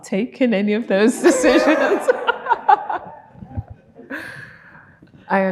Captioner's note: laughing